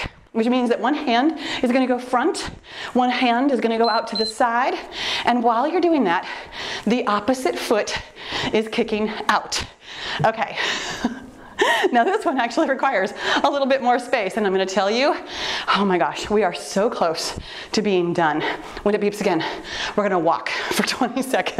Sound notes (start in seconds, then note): 3.8 timer beeps